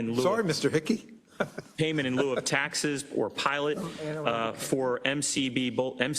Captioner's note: laugh